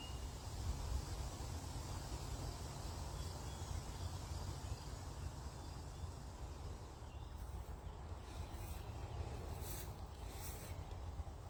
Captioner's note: crickets chirping.... bees buzzing.... birdsong